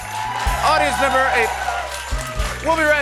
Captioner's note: cheers and applause